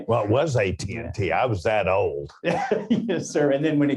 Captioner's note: laughs